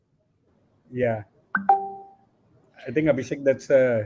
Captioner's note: alert pings